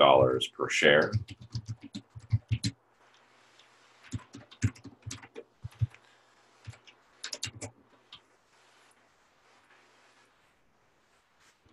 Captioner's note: typing Sounds